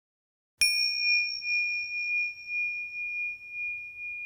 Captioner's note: bell ringing